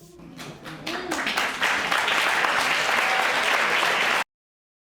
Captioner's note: audience applauding